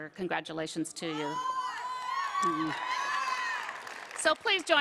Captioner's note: applause